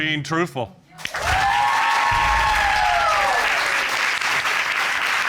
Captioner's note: audience cheering